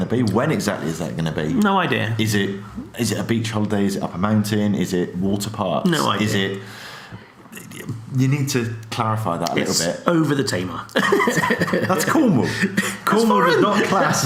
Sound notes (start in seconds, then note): 10.9 laughs